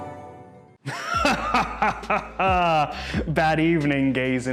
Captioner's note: man evil laughing